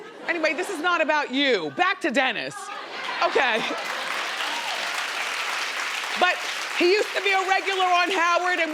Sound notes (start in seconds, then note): 3.5 crowd claps